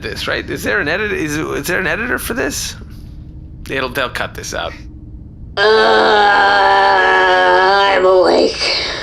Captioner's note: groaning